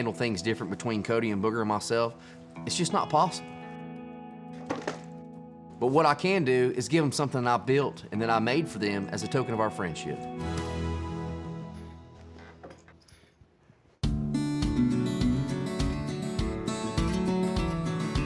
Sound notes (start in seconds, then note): 4.6 thud